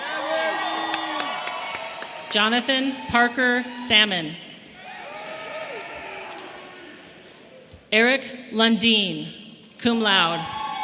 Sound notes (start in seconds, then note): 0.0 audience applauding and cheering